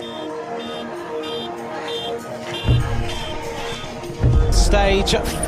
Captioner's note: suspenseful music; car honking